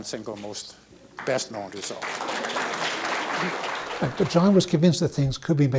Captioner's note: students applaud